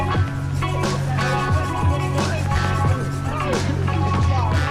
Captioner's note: people chattering